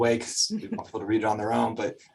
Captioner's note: chuckles